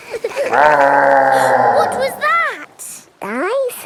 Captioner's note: laughing; gasps; growling